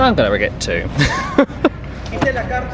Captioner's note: laughs